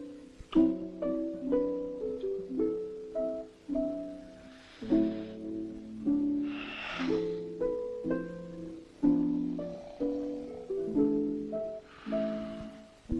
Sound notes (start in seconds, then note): 4.7 Ned sighs deeply; 9.2 gentle celestial harp music